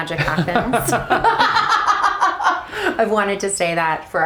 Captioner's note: both laugh